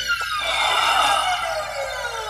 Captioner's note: Sighs deeply